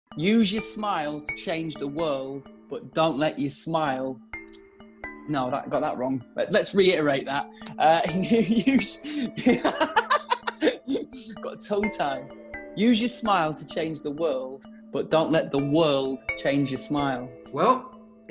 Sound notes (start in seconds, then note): 9.0 laughs